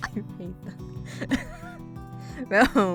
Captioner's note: wheeze